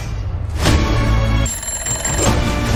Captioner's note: alarm clock rings